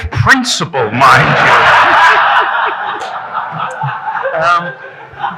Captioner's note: audience laughing